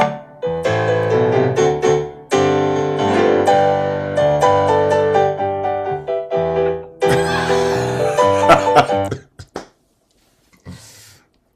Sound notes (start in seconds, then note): 7.1 laughing; 8.9 cough